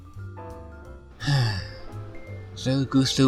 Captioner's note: sigh